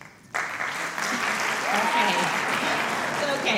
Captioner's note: applause